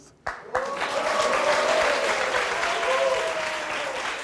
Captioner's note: audience clapping